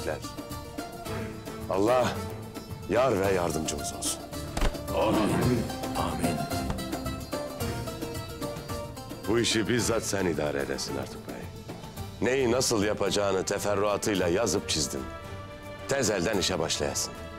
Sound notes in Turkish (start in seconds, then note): 4.5 El vurma sesleri; 5.1 Hep bir ağızdan